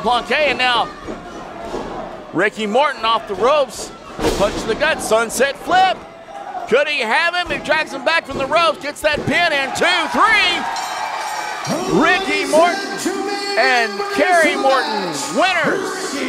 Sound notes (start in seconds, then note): 10.3 crowd cheering; 10.6 bell ringing